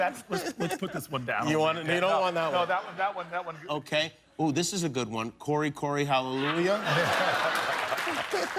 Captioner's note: applause